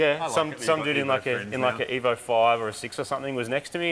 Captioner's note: none